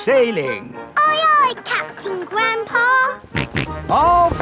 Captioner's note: snorts